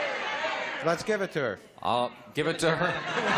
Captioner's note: audience exclamations